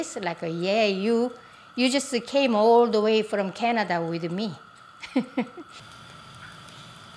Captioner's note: laughs